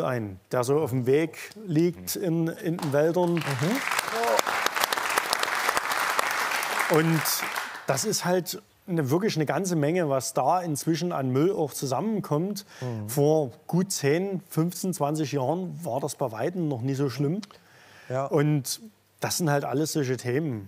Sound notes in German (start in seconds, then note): 2.7 Applaus